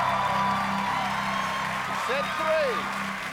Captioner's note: cheers and applause